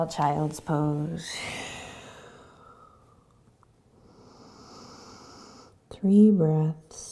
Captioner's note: exhaling and inhaling